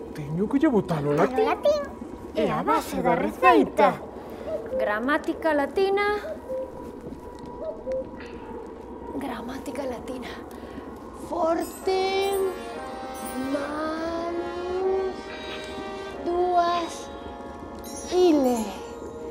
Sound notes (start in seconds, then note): 0.1 distorted voice; 6.1 owl hooting; 17.8 bells tinkling